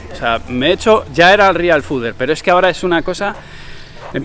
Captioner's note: sighs